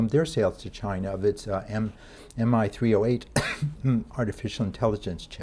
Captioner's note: lecturer coughing